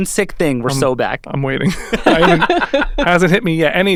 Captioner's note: laughing